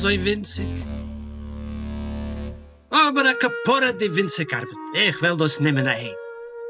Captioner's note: Yiddish